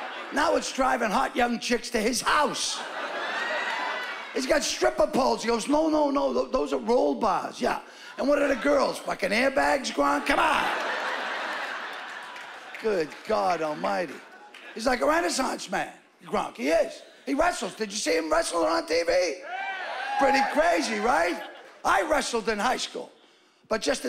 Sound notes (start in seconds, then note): 19.4 cheering